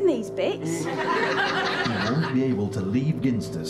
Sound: audience laughter

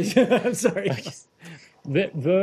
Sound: laughter

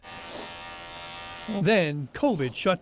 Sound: nat, cutting hair

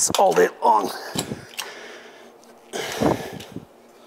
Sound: grunts

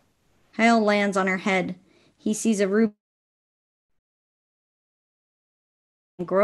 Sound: sound cuts out

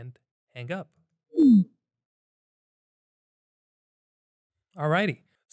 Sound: computer chimes

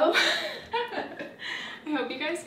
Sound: laughs

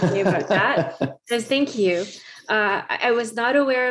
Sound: laughing

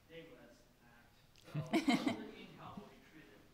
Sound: laughing drowns out speaker

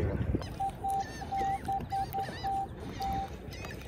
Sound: beep beep

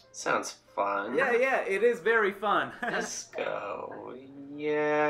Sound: chuckles

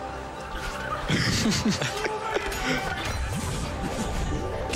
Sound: laughter

